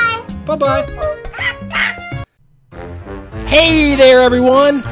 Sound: monkey cheering

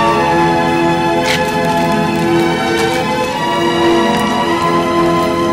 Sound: none

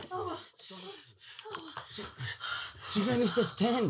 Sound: Franky gasps

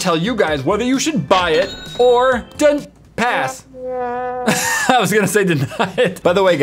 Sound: laugh

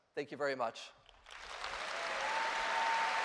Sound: cheers and applause

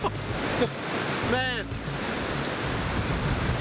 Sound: laughs

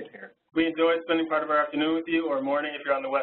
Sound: voiceover

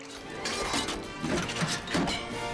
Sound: clanging

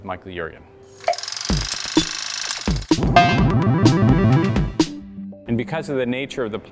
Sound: mechanical whirring

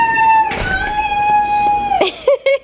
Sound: yelling excitedly; laughing

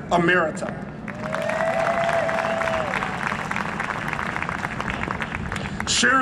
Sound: cheering and Applause

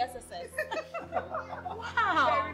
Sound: laughter

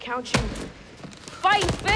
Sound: glove thudding

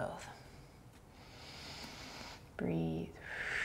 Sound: inhaling; exhaling and inhaling

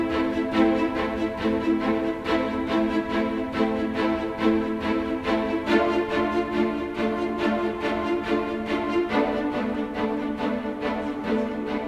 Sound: soft background chatter

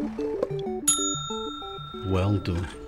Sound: gauge dings

